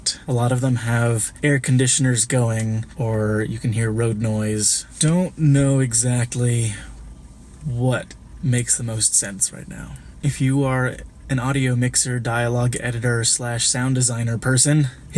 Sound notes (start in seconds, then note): none